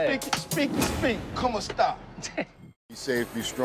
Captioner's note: speaking spanish